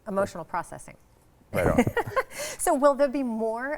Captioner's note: laughs